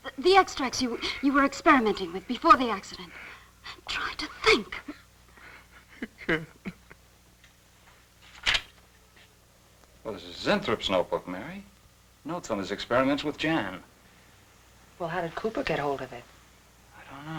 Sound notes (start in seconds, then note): 7.8 crying